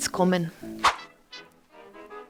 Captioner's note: woosh